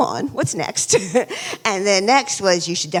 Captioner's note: laughs